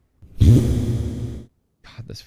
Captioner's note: fart noise